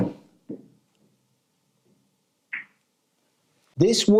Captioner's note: balls clacking